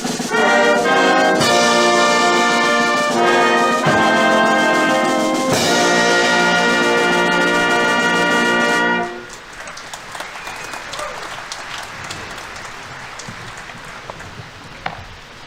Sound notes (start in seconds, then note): 9.5 audience applauding; 11.0 audience members cheering